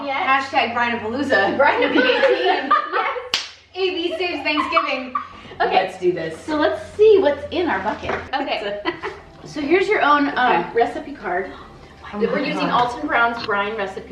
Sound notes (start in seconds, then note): 11.4 whispering